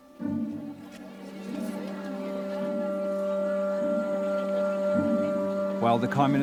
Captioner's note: people chattering; soft music